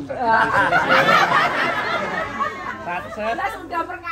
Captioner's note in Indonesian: tertawa